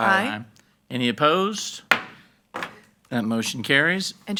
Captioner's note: gavel pounds